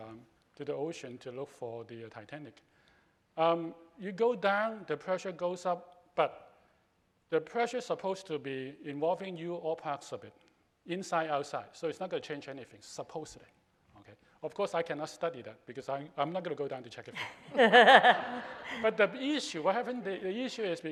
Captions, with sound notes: to the ocean to look for the Titanic. If you go down, the pressure goes up, but the pressure is supposed to be involving you, all parts of it, inside, outside. So, it's not gonna change anything supposedly. Of course I cannot study that, because I'm not gonna go down to check it. (laughing) But the issue is,